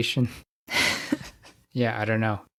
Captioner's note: laughs